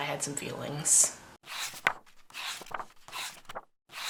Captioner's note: pages turning